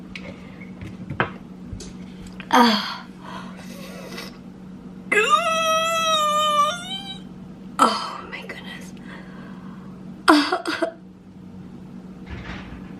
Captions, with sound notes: (prolonged pained noise) Oh my goodness.